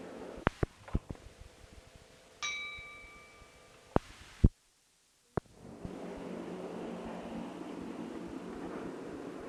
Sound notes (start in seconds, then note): 2.4 bell Sound